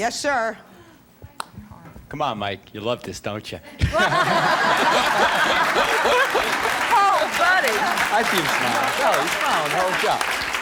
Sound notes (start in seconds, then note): 3.8 laughing